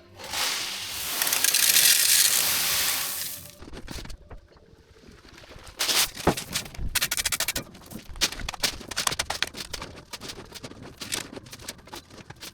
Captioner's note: machinery whirring